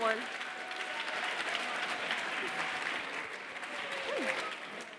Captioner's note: cheers, applause